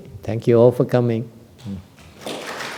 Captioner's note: applause